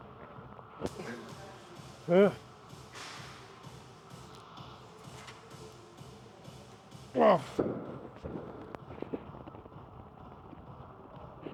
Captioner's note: groans